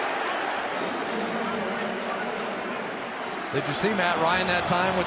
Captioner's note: pa announcement